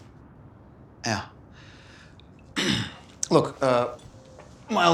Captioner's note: clears throat